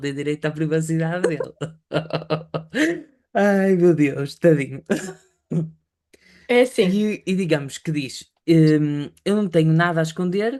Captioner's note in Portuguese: risadas